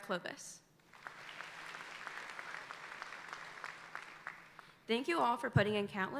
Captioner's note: audience applauding